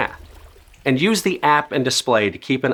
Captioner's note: water rustling